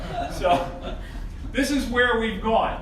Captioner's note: audience laughing